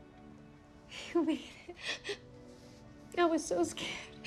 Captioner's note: crying